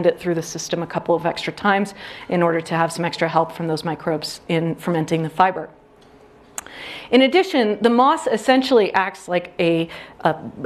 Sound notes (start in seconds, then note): none